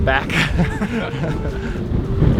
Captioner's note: both laugh